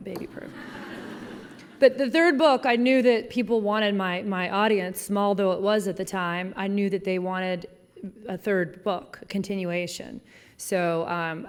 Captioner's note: laughing